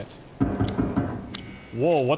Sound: loud banging

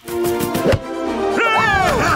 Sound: cheering

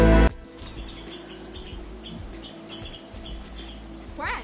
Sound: birds chirping

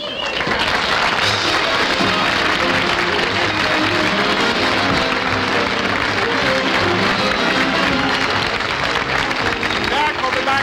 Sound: audience Applauding

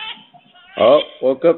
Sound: baby crying

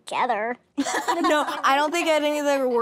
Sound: laughter

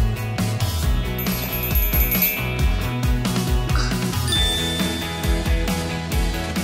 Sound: girls giggling; magical music

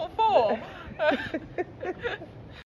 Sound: laughing

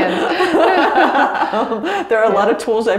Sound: both laugh

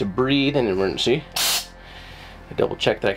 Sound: air whooshes

